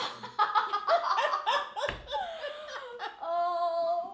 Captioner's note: laughing